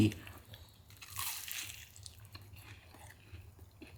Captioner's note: crunching